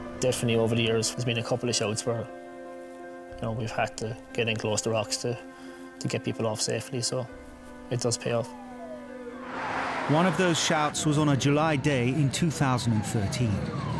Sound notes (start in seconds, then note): 8.0 siren wailing